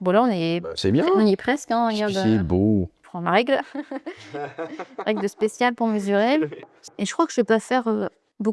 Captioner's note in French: rires